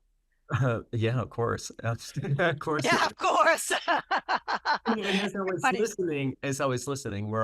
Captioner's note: chuckles; laughs